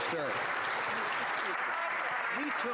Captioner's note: some Applause